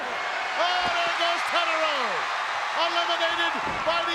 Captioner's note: crowd cheers